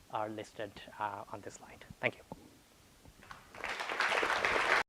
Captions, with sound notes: are listed on this slide, thank you. (audience applauding)